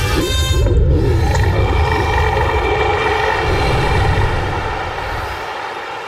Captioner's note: whale burp